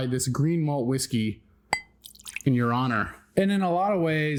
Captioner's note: glass rattles